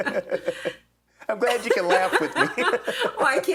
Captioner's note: laughs